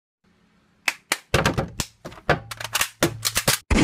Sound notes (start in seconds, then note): 0.8 clap; 0.9 claps